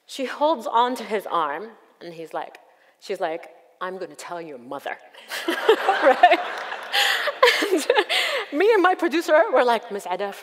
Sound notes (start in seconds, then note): 5.3 audience laughs; 5.3 laughs